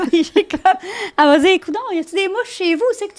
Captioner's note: in french